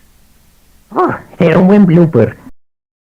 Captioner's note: sighs